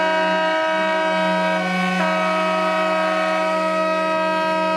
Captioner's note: boat horns blowing